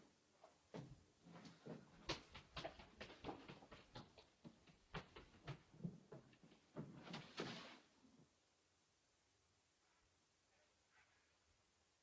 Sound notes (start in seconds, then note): 2.1 footsteps scurrying up stairs; 6.8 door opens